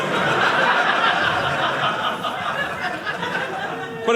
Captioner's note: audience laughing